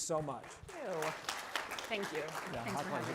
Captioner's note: applause